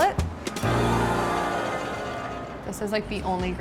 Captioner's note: audience exclaims in awe